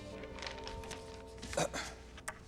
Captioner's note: clears throat